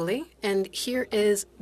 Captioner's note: speaking in French